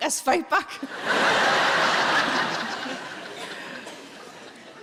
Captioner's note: audience laughing